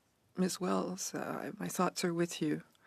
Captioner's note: speaking in French